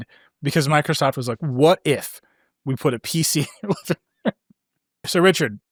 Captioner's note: laughs